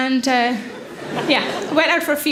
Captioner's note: audience laughs